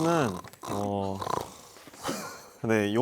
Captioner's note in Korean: 드르렁